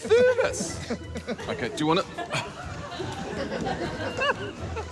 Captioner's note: strains; laughs